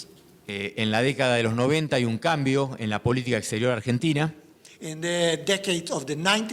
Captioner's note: speaking in foreign language